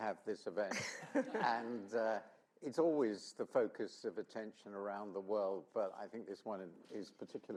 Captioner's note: laughter